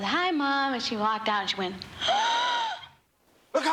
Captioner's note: gasps